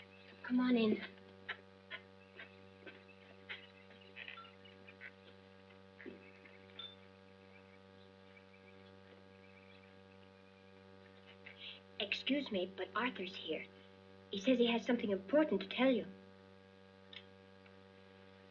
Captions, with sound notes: Come on, in. [ FOOTSTEPS ] Excuse me, but Arthur's here. He says, he has something important to tell you.